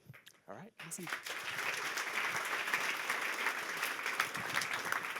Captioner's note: applause